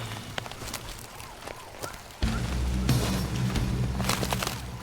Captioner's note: siren blaring